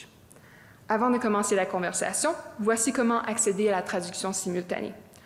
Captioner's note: speaking French